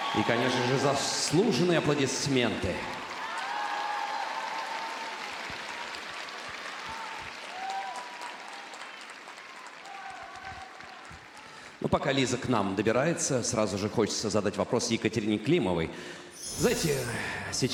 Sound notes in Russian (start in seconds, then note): 1.8 аплодисменты; 1.8 ликование